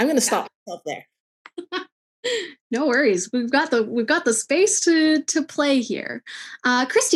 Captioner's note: laughing